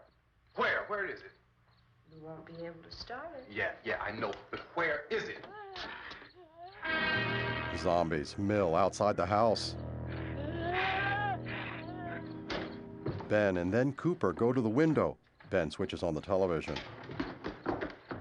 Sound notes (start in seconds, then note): 5.2 groaning